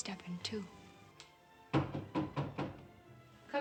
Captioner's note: knocking